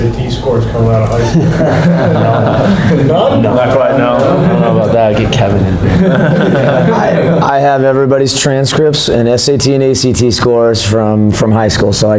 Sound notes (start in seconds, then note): 1.2 laughs